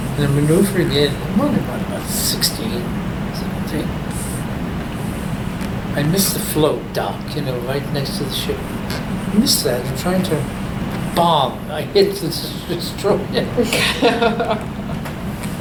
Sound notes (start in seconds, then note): 12.3 bong; 13.2 all laugh